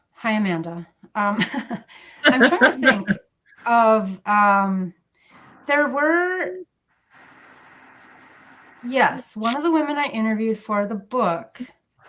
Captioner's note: laughter